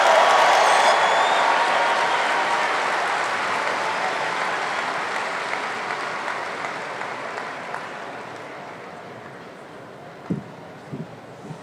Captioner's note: applause